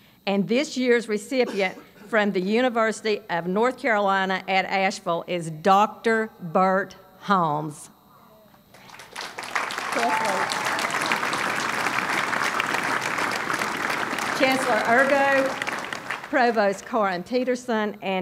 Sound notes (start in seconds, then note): 8.7 applause